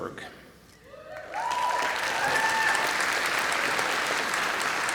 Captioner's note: applause and cheering